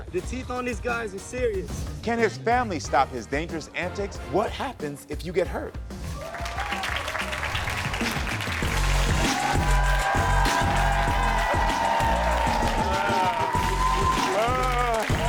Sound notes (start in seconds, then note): 5.7 audience claps; 8.6 upbeat music; 10.2 audience cheers